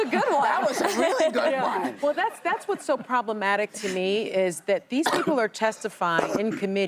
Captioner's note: laughter